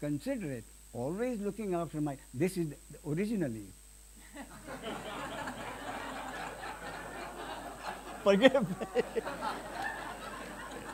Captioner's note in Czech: smích